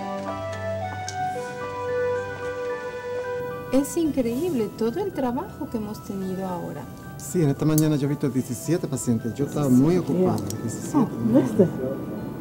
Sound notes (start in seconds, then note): 3.7 female doctor speaking Spanish; 7.2 male doctor speaking Spanish